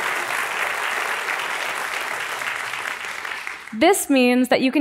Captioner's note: applause